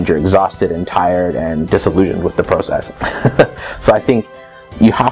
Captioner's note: laughs